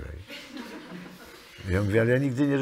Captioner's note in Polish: śmiech